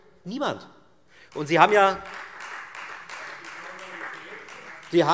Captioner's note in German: Beifall Freie Demokraten